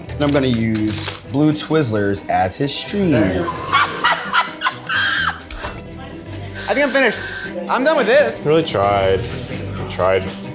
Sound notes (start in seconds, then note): 3.0 laughs